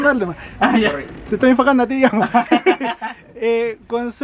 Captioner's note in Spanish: risas